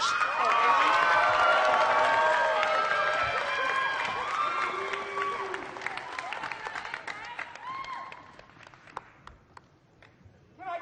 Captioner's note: applause